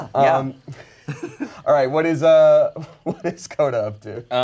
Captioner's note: chuckles